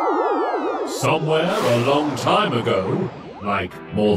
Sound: in robotic voice

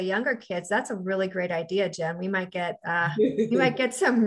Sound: laughs

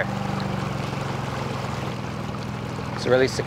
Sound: boat engine purring

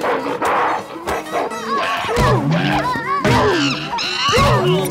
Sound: screaming and grunting

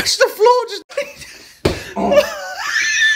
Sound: thuds; laughter

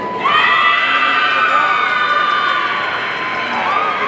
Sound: audience cheering

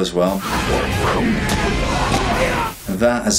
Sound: people yell; air whooshes

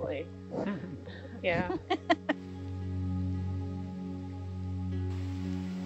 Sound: woman laughing

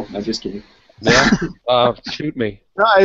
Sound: laughs

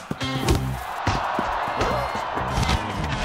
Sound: crowd cheering

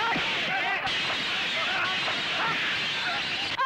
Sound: glass shatters

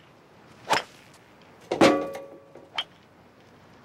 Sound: clanging

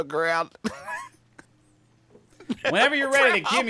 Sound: laughing

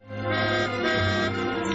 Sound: car horn honks

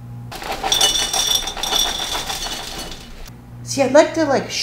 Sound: cereal clattering in bowl

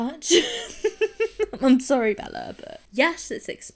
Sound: laughs

